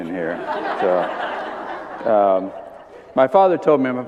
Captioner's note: laughter